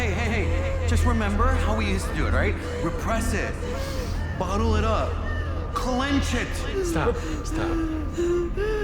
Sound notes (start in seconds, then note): 3.2 inhales deeply